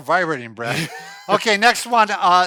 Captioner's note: laughing